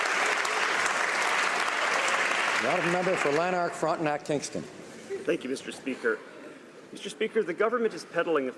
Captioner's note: applause